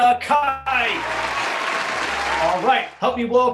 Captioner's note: applauding